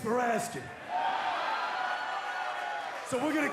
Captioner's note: cheers & applause